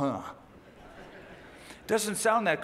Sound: laughter

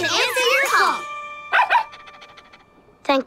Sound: barking

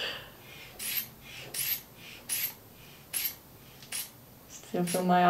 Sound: squeeze bulb pumping air

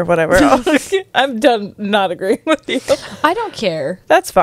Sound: laughs

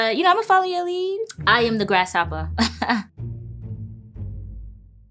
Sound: laughs

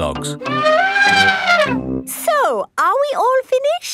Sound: trumpeting

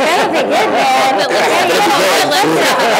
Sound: laughter

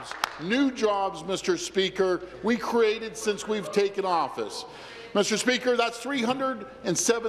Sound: applause

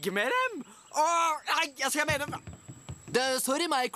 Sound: stammers

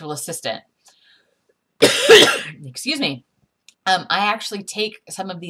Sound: coughing

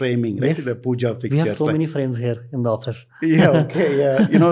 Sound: chuckles

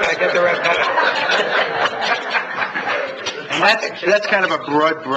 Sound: laughs

